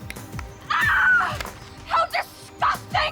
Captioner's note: screaming